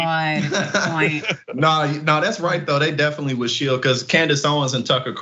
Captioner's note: laugh